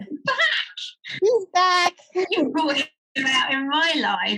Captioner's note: laughs